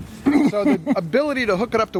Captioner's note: laughter